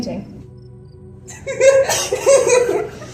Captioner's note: ominous laughter from the gays